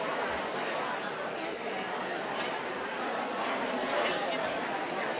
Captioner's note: woman quietly speaking